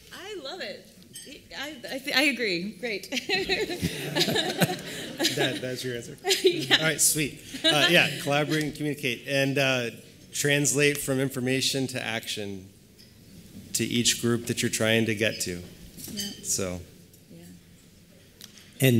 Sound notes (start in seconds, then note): 3.1 laughing